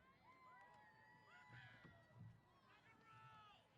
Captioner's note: cheers